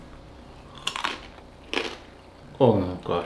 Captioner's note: crunching